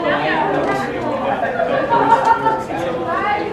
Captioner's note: laugh